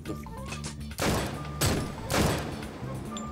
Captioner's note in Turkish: Mermi Sesleri